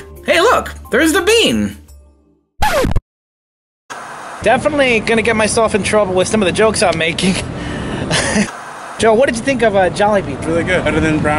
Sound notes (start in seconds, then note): 3.9 TV static; 8.1 laughs